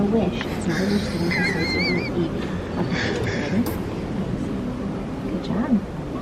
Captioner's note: laughing amusingly